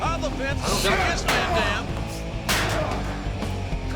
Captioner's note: steel clanging; steel rattling